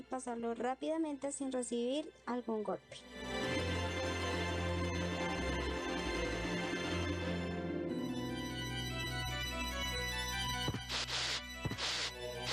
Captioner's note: claps